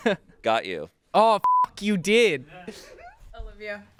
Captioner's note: laughs; beep; laughs